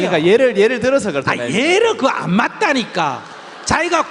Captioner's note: audience Laughter